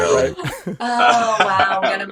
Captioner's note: gasping